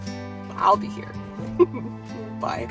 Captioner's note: laughs